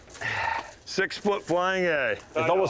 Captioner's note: sighs